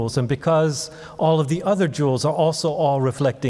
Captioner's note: none